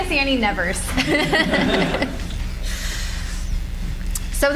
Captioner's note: audience laughs